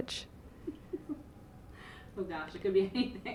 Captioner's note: laughing